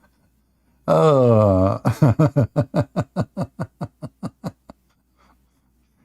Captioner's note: Ketawa